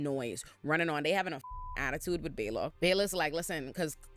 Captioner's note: beep